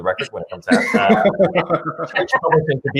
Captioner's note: laughs